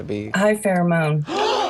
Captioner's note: all gasp